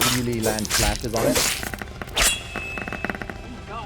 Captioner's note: tapping